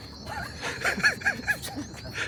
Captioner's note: chuckles